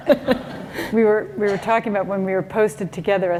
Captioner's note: laughter